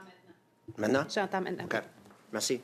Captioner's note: speaking in French